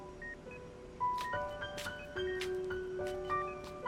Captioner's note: steps